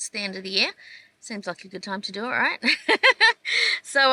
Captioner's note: chuckles